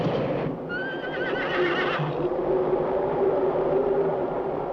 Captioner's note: horse whinnying